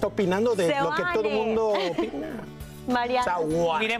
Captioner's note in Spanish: risas